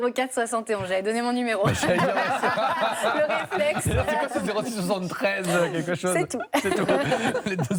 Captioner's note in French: rires